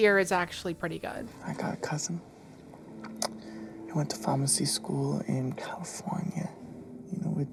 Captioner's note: clicks tongue